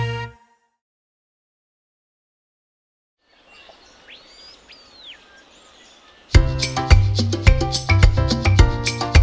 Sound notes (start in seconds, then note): 3.2 birds chirping; 6.3 lively music